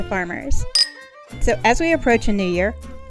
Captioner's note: bell dinging